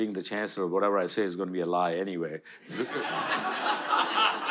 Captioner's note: audience laughter